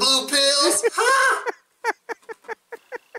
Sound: laughing

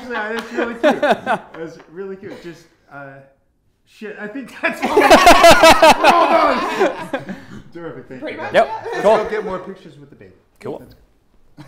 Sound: laughing

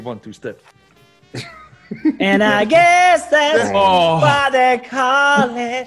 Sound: laugh

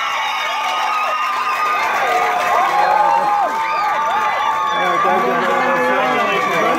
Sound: cheers

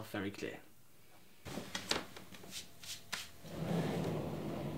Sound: rustling, shuffling; door sliding open and closed

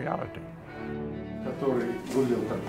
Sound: man speaking russian

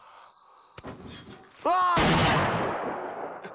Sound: screams

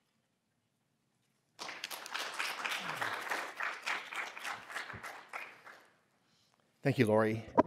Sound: applause

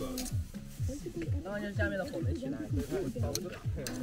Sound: fire

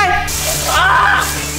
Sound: screaming

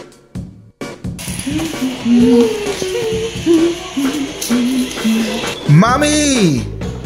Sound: upbeat rock music; humming

